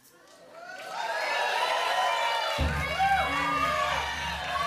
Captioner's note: cheering and applause; audience shouting numbers